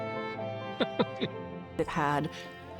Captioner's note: chuckles